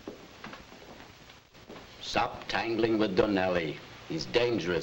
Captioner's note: none